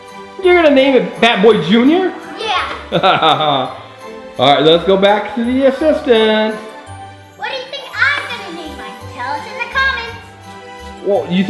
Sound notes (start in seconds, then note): 2.8 cameraman laughs